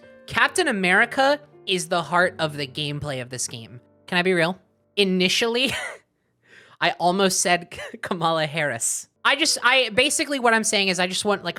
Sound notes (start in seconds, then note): 6.0 laughs